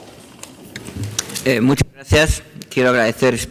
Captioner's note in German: spanisch